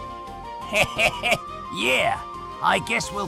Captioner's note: laughing